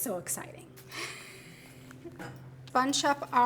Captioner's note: chuckling